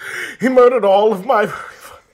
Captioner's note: sobs